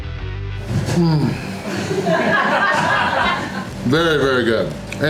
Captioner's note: crowd laughter